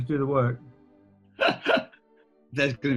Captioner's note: laughing